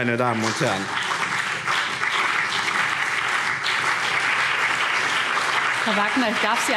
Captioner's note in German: Beifall BÜNDNIS 90/DIE GRÜNEN, CDU und vereinzelt Freie Demokraten